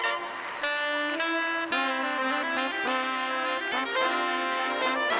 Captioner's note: audience applauding